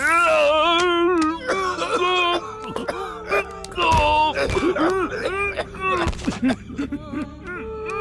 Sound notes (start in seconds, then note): 0.7 Vignesh coughs